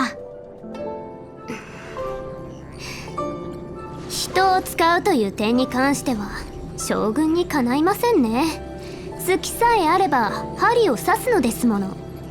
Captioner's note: sigh